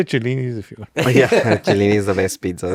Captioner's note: laughs